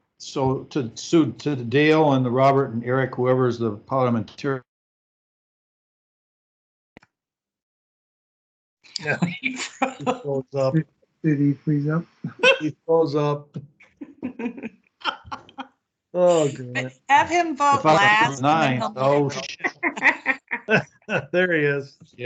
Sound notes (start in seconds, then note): 9.0 chuckles; 14.2 all chuckle